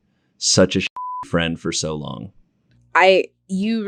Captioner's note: beep sound